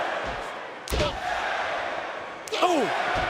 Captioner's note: crowd cheering